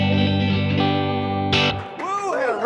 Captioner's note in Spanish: aplauso